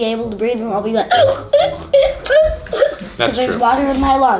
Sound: gasps

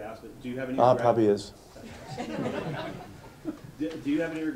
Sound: laughter

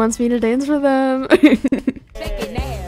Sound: laughs

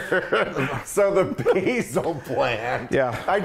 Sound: laugh

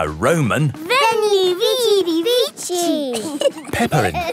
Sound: laughing

